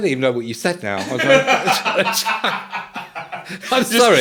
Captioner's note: all laughing